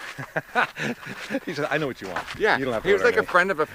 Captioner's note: laughs